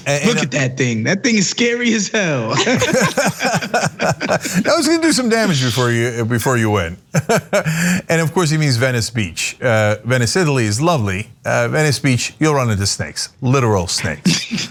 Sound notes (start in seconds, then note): 2.6 laugh; 7.1 laugh